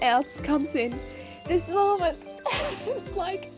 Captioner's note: giggles